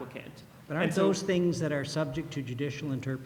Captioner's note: voiceover